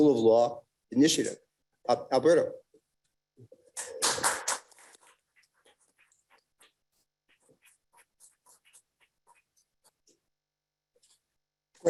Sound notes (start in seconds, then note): 4.0 audience applauding